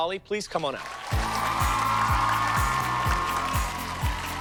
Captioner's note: cheers and applause